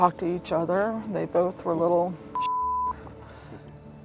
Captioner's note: beep